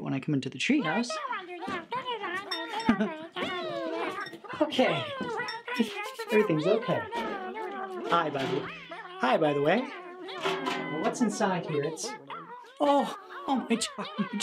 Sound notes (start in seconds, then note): 1.3 critters yelling and mumbling; 6.3 critters yelling and mumbling; 9.5 critters yelling and mumbling; 12.9 critters yelling and mumbling